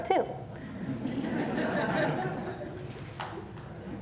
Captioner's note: laughter